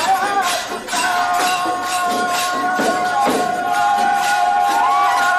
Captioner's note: Applausi